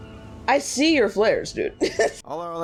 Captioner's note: laughs